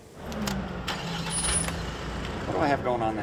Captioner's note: engine revs